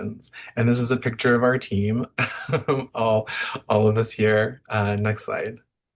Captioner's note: chuckles